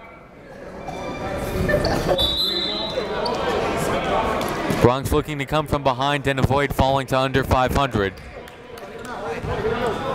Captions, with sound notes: (whistle blows) Bronx looking to come from behind and falling to under 500. - Let's go, let's go,